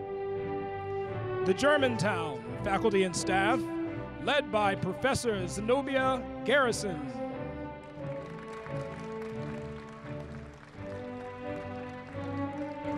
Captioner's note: applause